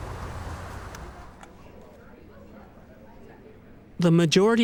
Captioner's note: people talking in background